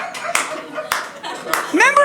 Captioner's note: audience laughing